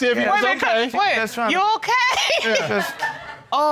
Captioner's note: laughs